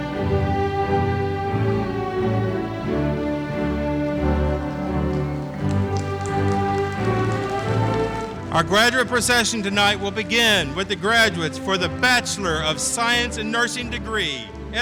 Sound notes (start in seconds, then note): 5.0 audience cheering